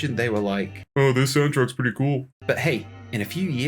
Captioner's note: sounding dead behind the eyes